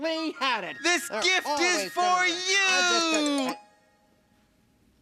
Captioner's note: muttering